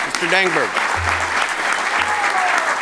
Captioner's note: applause